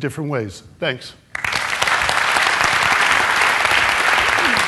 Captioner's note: applause